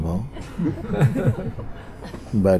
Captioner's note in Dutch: gelach